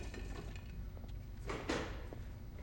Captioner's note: door closes